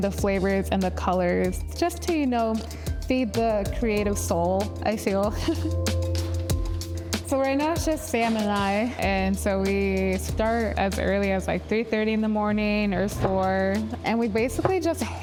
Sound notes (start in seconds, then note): 5.8 laughs